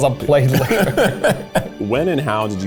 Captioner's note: laughing